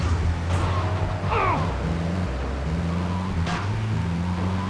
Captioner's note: gun firing; grunting